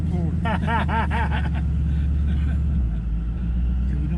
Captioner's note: both laughing